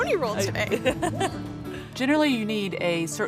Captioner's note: laughing